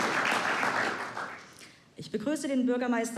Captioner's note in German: Applaus